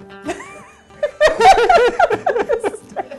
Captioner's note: laughter